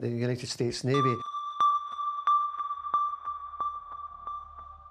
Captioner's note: sonar pinging